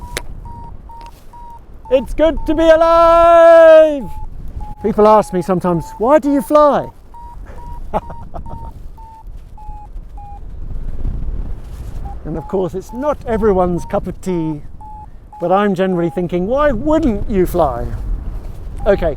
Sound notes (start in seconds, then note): 0.4 Vario beeps; 7.4 laughs; 7.7 Vario beeps; 18.8 Vario beeps